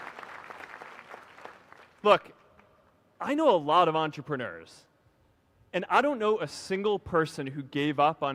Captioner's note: applause